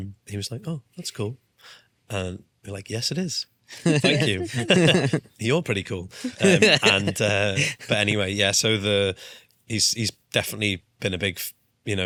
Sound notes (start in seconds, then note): 3.8 laughs